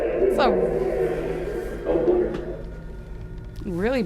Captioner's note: distorted speaking